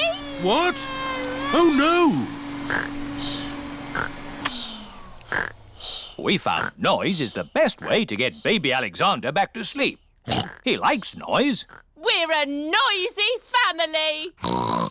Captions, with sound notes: What? Oh, no. (SNORES) (WHIRRING STOPS) We found noise is the best way to get Baby Alexander back to sleep. -(OINKS) He likes noise. -We're a noisy family! (OINKS)